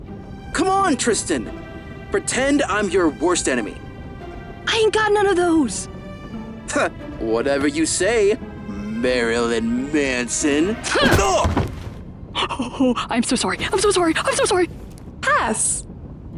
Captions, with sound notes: Come on, Tristan! Pretend I'm your worst enemy. I ain't got none of those! [scoffs] Whatever you say, Marilyn Manson! -[Tristan grunts] -Oof!! [stammering] Oh! I'm so sorry! I'm so sorry! I'm so sorry! Pass!